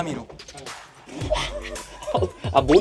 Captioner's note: laughs